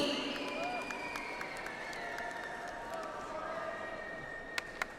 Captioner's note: audience applauds